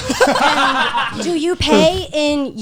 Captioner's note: all laughing